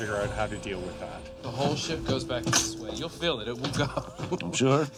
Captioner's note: laughs